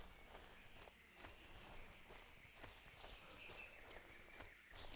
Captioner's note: birds chirping